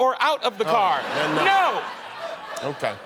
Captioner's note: laughing